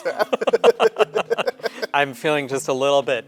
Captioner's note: laughter